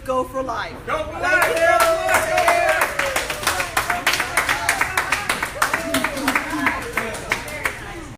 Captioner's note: applause